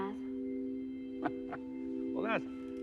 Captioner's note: chuckling